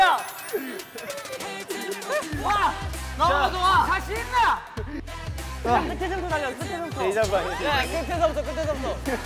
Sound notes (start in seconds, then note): 2.3 shout of power